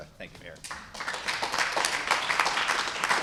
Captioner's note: applause